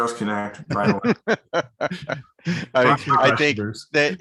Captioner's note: laughs